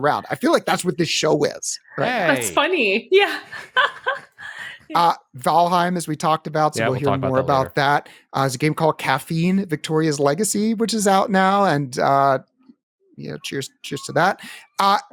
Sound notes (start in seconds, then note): 3.3 laughs